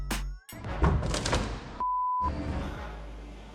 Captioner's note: door popping; beep